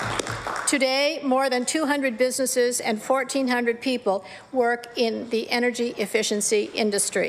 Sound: applause

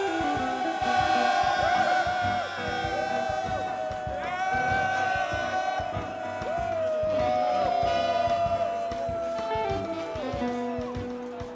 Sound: applause

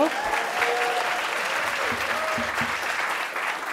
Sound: applause

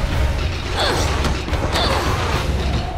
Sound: grunting

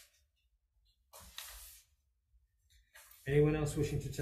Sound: papers rustling

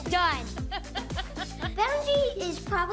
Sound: laughter

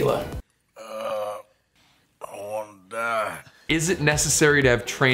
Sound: groans

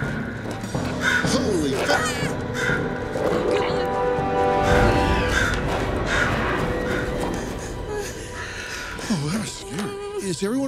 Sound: crow caws

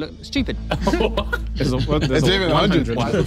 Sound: laughing

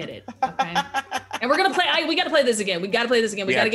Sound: laugh

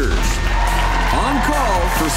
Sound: crowd cheering

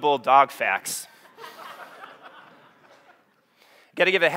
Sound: audience laughing

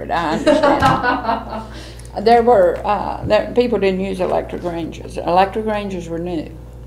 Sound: laughter

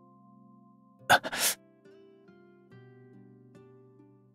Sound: hisses

